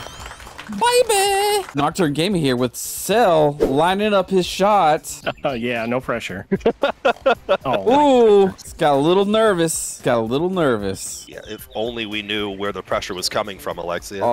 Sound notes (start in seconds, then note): 6.5 laughter